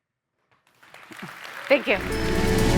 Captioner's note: audience applauding